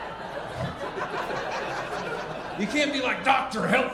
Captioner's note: audience laughing